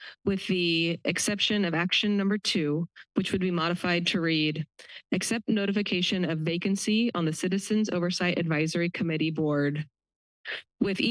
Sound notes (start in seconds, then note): none